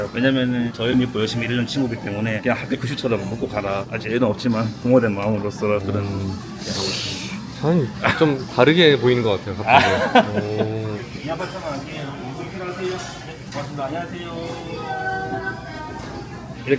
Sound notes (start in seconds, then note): 9.6 chuckles